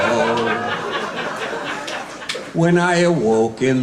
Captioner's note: laughing